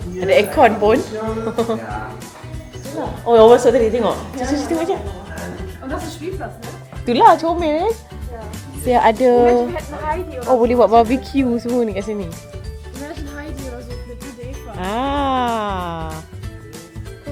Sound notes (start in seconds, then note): 6.1 speaking German; 13.1 speaking German